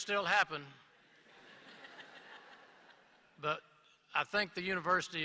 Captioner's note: laughter